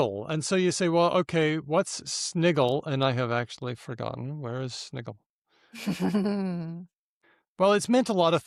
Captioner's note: laughs